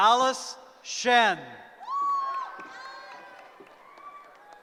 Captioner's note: cheering